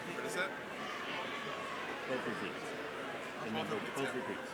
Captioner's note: crowd chattering